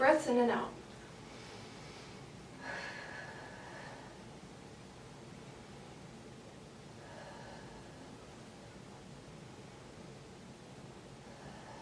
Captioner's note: deep breathing